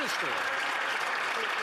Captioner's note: some Applause